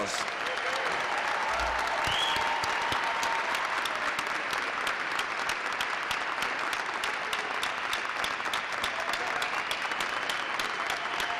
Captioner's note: applause